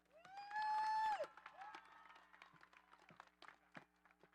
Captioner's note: audience applauding